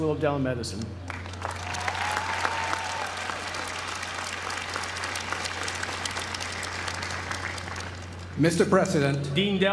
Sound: applause

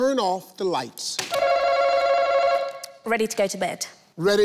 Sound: buzzer ringing

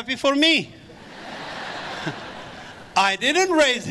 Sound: audience laughs

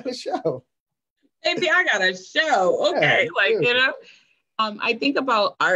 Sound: laughs; laughing

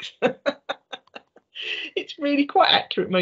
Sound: laughing

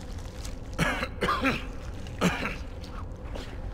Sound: coughs

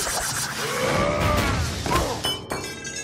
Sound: screaming

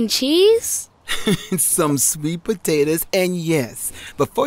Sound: laughs

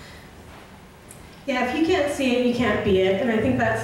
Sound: voiceover

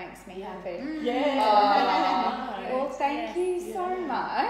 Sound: laughing

